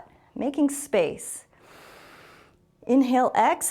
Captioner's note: exhales; inhales